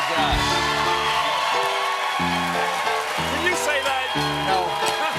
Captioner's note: cheers and applause